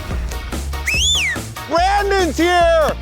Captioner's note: energetic music; whistles